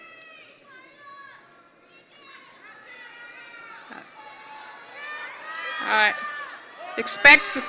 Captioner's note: audience noise